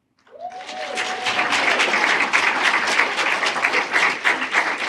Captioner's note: applause